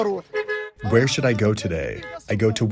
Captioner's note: through translator